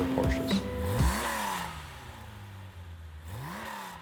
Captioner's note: car engine